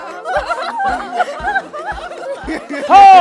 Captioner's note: laughter